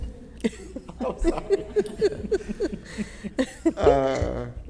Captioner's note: all laughing